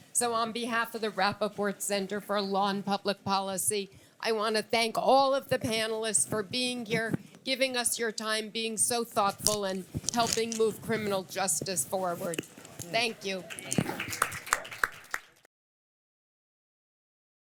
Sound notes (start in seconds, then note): 13.3 applause